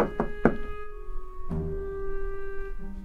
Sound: knocking on door

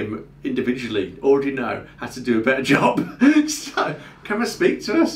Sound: laughing

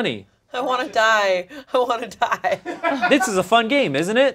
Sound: laughs

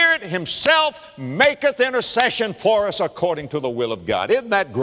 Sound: clap; clap

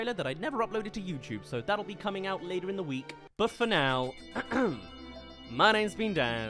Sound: ahem

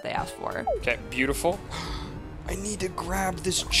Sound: gasp

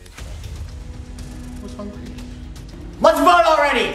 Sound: screams

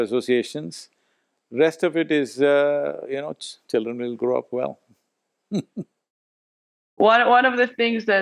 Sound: chuckles

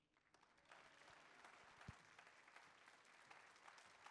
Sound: audience claps

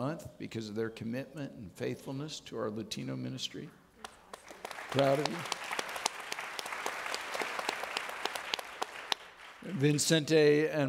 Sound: audience clapping

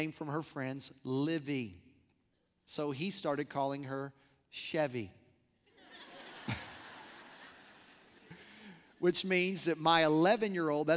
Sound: laughter

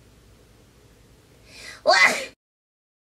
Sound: sneezes

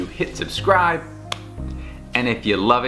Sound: fist slapping

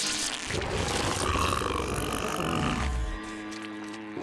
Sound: growling

